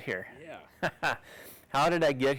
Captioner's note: laughs